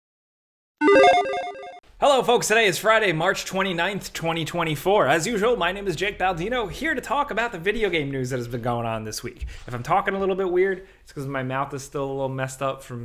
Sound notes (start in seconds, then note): 0.8 bright beeping